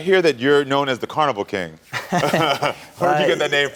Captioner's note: laughing